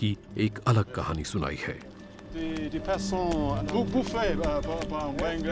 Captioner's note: all speak foreign language